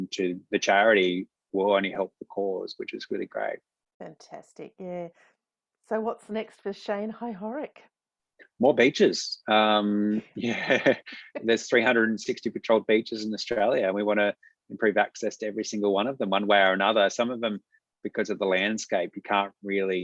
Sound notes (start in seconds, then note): 10.4 both laugh